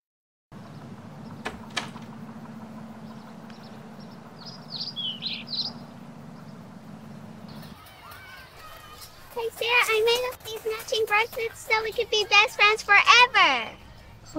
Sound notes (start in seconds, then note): 7.5 kids clamoring